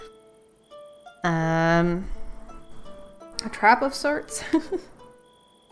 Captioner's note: laughs